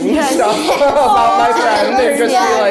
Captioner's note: laughing